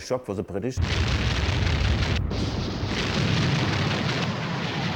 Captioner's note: guns firing